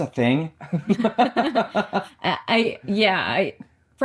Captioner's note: both laughing